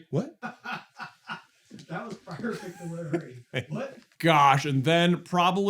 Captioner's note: laughing